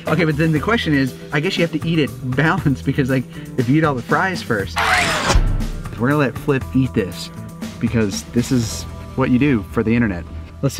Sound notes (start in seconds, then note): 4.8 mechanical noise